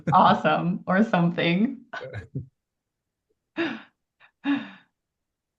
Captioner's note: laughs